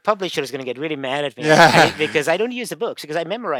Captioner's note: laughing